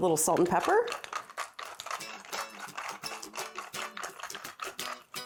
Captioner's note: pepper mill grinding